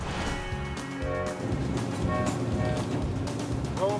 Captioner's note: train whistle blows